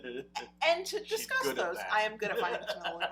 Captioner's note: laughing